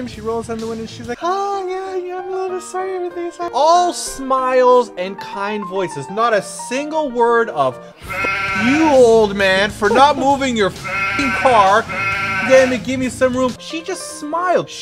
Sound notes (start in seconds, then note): 3.9 raising voice; 11.6 continues cursing